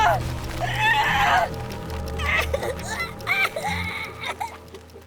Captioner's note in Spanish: La voz de Bugsy se vuelve más y más aguda